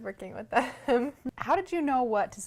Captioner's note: laughs